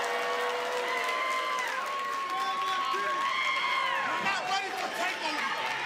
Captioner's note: cheers and applause